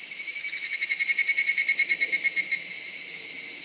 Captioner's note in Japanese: ヒグラシの鳴き声